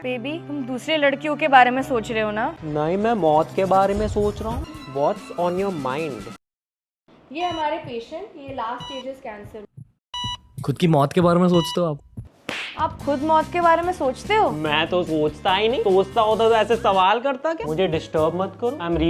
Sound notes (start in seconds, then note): 10.1 ECG beeping; 12.4 smack